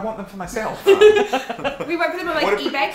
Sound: Christian chuckles; giggles

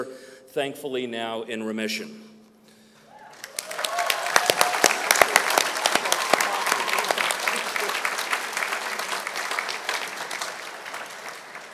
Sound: applause

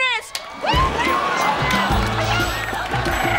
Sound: cheering

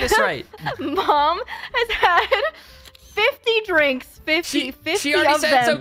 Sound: laughing

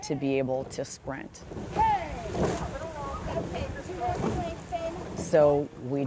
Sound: shouting

